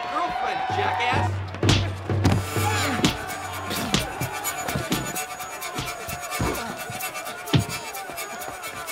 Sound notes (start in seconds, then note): 1.5 bashing